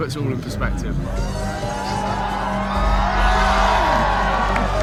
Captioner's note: crowd cheers